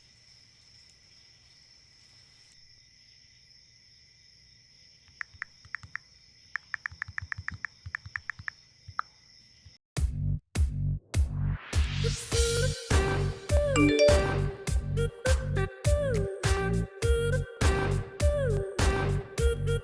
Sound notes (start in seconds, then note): 6.6 typing; 13.8 phone Dings